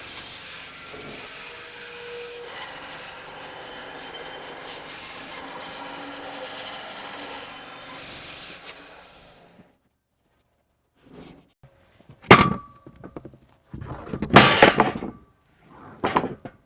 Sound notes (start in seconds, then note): 2.6 saw whizzing; 12.0 wood clunking